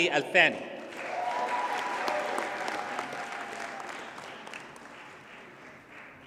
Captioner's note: audience cheers and applauds